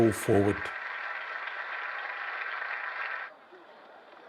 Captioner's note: applause continues